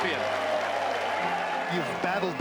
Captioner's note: cheers and applause